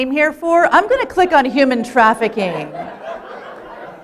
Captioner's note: laughter